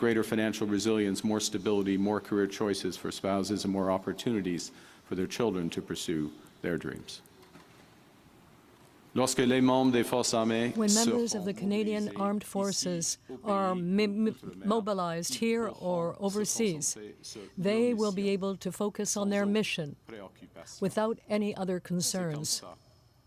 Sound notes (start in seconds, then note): 15.3 speaking French